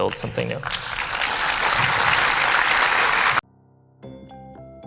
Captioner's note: applause